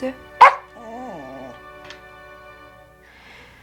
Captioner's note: dog barks